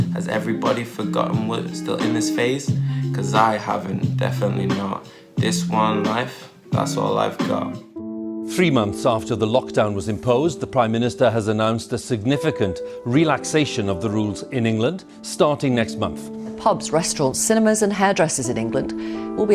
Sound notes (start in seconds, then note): 8.5 rolling news audio